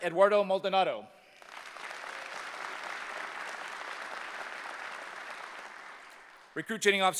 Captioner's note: applause